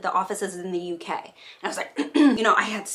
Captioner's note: clears throat